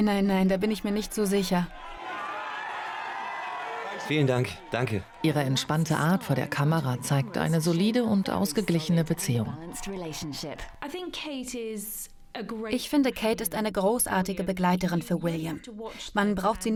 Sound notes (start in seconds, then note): 1.6 crowd cheering